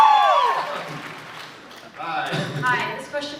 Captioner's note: cheers, applauds; laughs